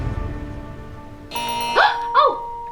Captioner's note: suspenseful music; buzzer ringing; bells ringing